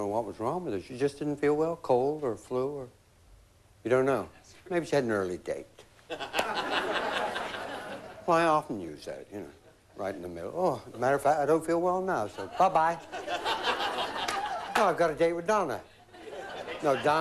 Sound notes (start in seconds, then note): 6.0 laughter